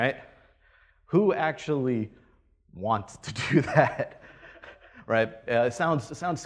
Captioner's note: laughs